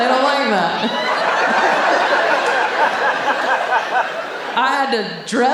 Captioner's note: audience laughing